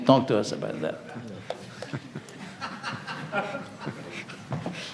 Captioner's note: audience laughs